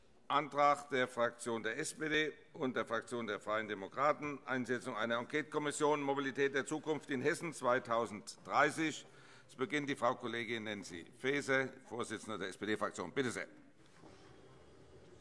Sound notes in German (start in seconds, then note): none